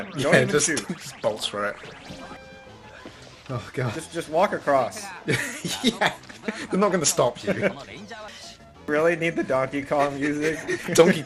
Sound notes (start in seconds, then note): 5.2 laughs